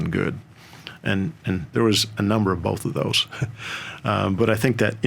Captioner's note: chuckles